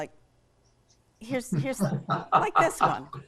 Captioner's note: laugh